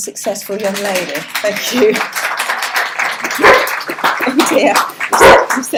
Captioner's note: applause and guide dogs barking